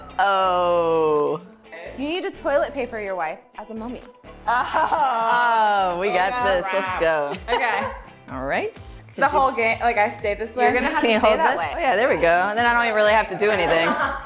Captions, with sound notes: Oh. You need to toilet paper your wife as a mummy. (laughter) - We got this. All right. - The whole game. Like I stay this way? You're gonna have to stay that way.